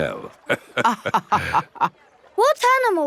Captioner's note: both laughing